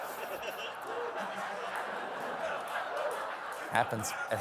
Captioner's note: laughter